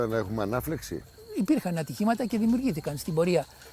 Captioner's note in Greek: κελαηδίσματα πουλιών